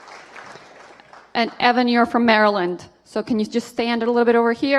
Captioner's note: applause